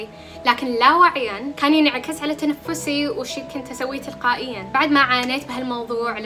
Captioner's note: my breathing